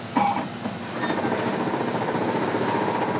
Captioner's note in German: Maschinenrattern, Zischen